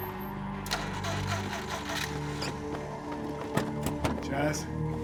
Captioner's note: car ignition rumbling